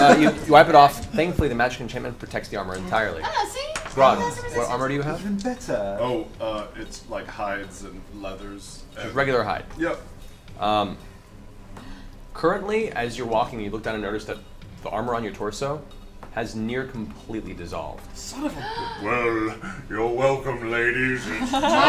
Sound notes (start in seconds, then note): 18.4 gasps